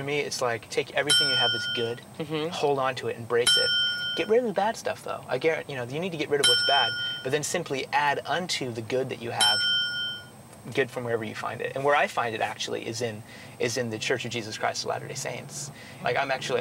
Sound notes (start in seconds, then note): 1.1 ding; 3.4 ding; 6.4 ding; 9.4 ding